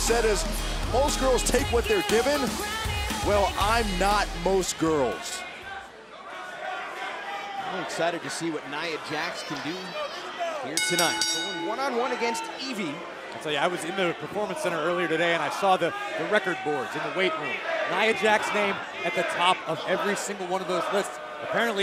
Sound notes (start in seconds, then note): 7.5 fans chanting; 10.7 bell